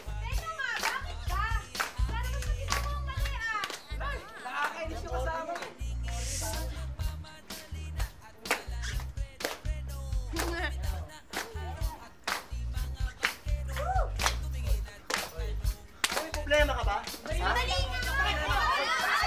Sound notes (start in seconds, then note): 10.3 chuckles; 17.5 crowd clamoring